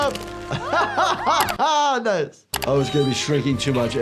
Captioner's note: laughs